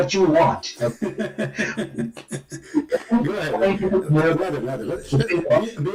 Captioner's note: Ketawa